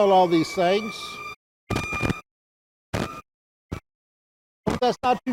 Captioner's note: sirens wail